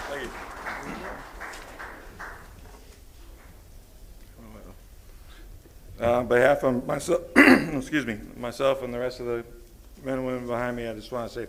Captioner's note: applause